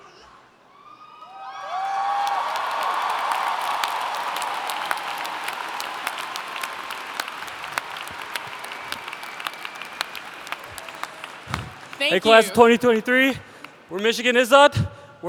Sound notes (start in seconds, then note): 0.7 cheering